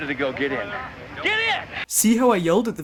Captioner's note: shouting